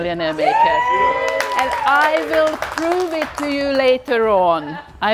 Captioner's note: group cheering